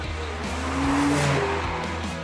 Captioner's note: car engine revving